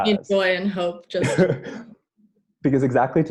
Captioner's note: laughing